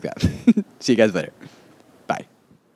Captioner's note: chuckles